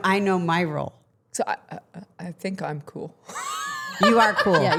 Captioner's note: laughing